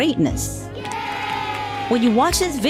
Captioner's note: kids cheering: "Yay!"